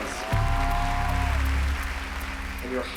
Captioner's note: applause